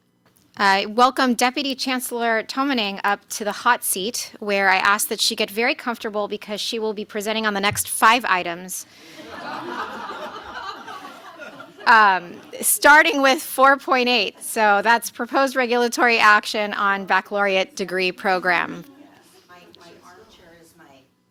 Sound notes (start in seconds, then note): 9.1 laughter